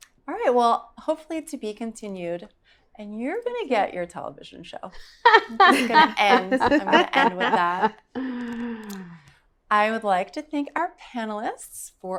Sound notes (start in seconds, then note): 5.0 laughing